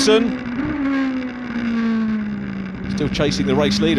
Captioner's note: engines roaring